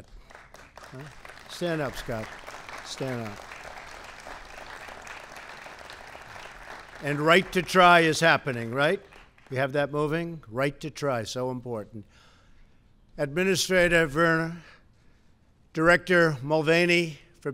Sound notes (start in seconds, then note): 2.7 applause